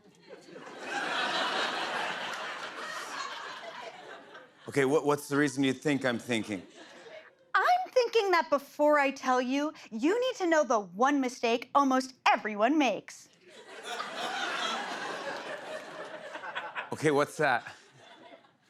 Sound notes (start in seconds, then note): 0.1 laughter; 13.4 laughter